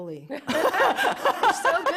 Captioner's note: laughter